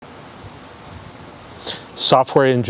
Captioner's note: wind blowing